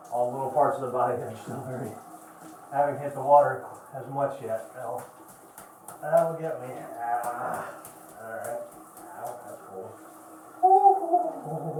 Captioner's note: more groans